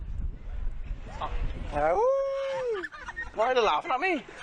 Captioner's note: howling